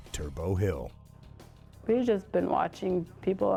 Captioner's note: voiceover